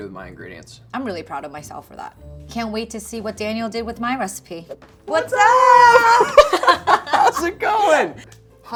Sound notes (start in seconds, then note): 5.2 laughing